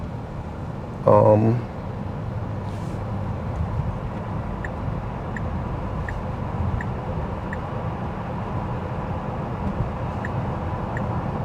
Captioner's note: car engine